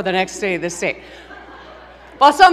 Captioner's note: laughter